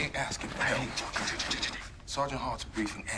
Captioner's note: stammers